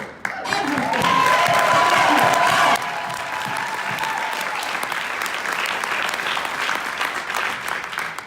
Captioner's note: loud cheering and clapping